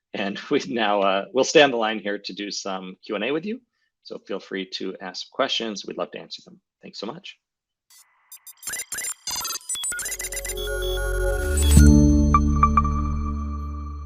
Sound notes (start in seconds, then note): 8.2 machine beeping; 10.1 bright music